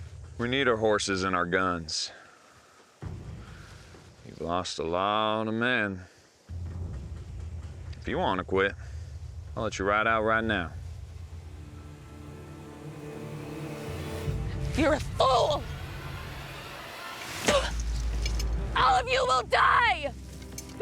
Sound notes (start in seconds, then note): 17.4 spits